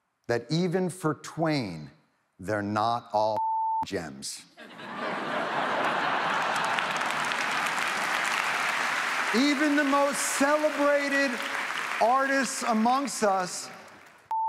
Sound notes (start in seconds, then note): 4.6 audience laughs; 5.0 audience applauds